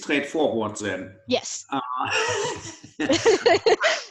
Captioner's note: laugh